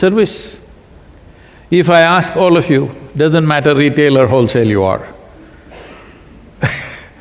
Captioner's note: laughs